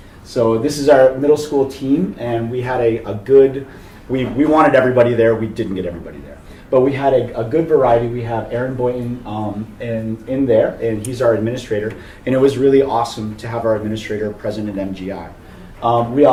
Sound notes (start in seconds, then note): none